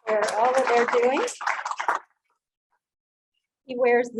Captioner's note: audience applauding loudly